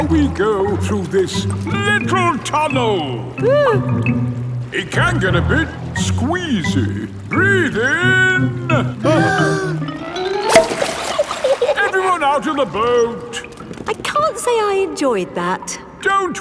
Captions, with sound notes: Now we go through this little tunnel! (WHIMPERS) It can get a bit squeezy! Breath in! (BREATHING IN) Everyone out of the boat! I can't say I enjoyed that!